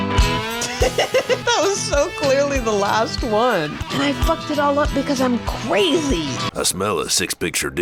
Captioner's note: laughs